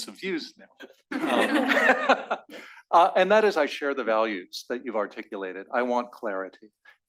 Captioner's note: laugh